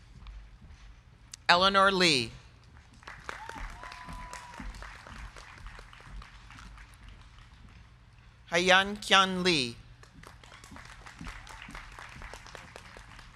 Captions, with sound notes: Eleanore Lee. (crowd cheering) (crowd clapping) Hyun Kyung Lee. (crowd clapping)